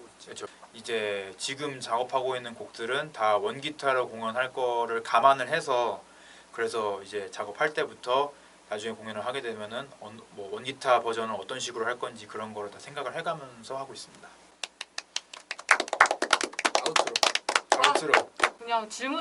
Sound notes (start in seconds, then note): 14.6 applause